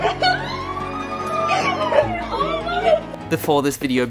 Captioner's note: screaming